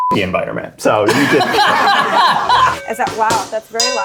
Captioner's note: all laugh